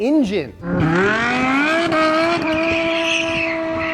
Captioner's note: car engine revs